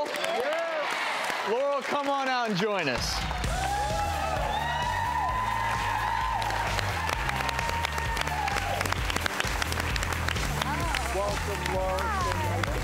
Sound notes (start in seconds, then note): 4.1 cheering and applause